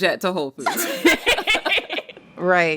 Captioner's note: laughter